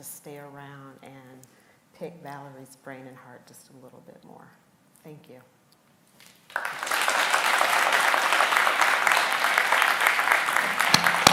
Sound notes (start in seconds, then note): 6.3 applause